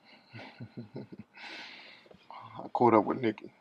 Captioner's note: laughing